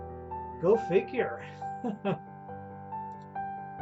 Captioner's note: chuckles